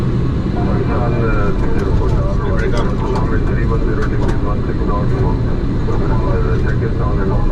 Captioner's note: air traffic control speaking in background